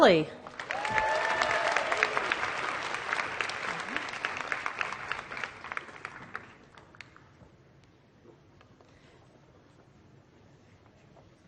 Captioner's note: applause